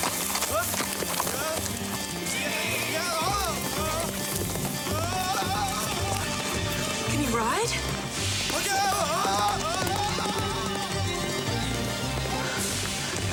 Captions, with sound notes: Giddy up. (suspenseful music) (Nick wailing) (horse galloping) - Can he ride? - Look out!